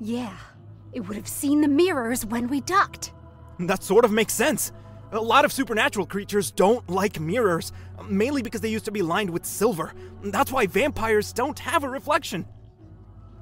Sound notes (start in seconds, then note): none